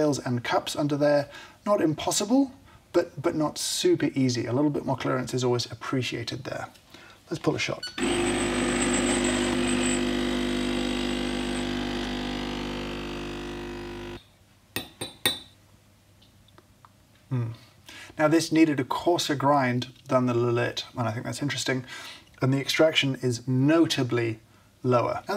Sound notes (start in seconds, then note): 8.0 coffee machine hums; 14.4 teaspoon clanks